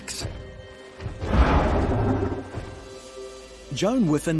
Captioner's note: dinosaur roars